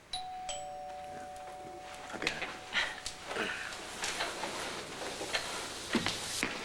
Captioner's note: doorbell rings